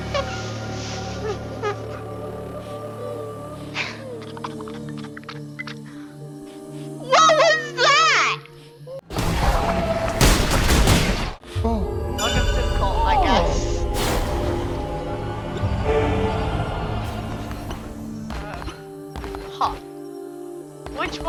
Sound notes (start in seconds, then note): 3.6 laughing